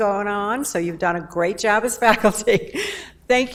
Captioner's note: laughs